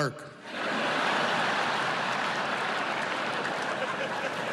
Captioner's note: laughter